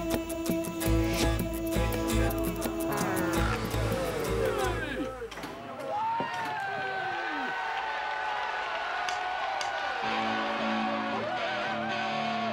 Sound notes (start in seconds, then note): 5.9 crowd cheering; 10.1 rock music